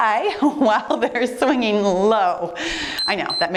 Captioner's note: timer beeps